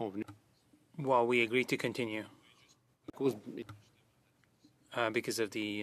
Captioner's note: speaking French